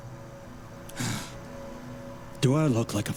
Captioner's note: sigh